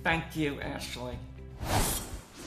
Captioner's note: air whoosh